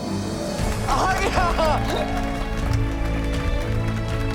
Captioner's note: applauses